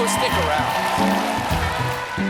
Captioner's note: cheers and applause